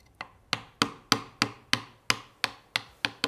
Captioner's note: hammering